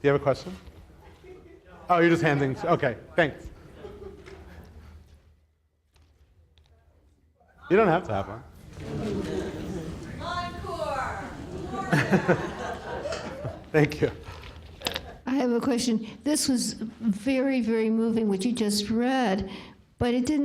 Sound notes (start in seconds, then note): 8.7 audience laughs